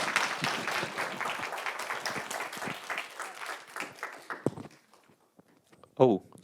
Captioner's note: applause